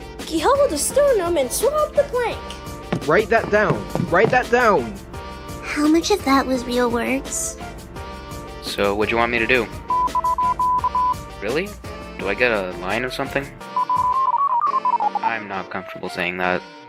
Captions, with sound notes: Keelhaul the sternum and swab the plank! Write that down! Write that down! How much of that was real words? So, whadja want me to do? [BEEPING] Really? Do I get a line, or something? [RAPID AND INTENSE BEEPING] I'm not comfortable saying that.